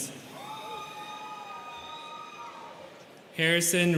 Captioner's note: students cheering